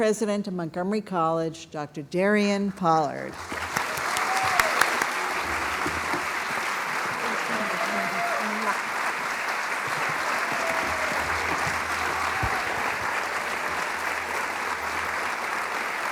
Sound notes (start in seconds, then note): 8.7 applause